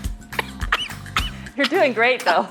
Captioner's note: laughing; slurping; coughing